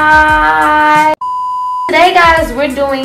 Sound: beeps

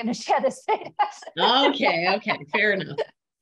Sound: laughing

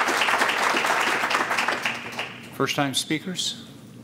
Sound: applause

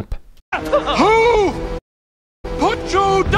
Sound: screams

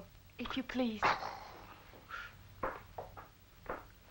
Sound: priest groaning

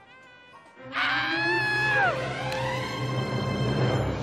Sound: screaming

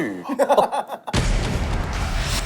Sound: laughs in disbelief and takes another bite

